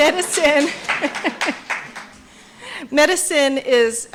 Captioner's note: applause